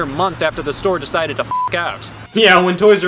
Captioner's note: beep